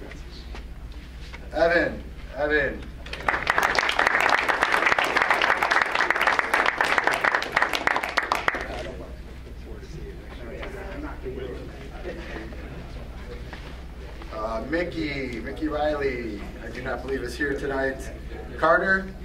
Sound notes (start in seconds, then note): 3.0 crowd applauds